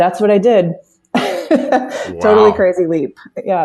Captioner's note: laughs